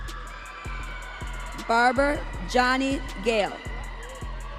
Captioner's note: audience cheering